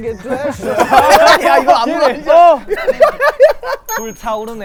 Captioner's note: dying of laughter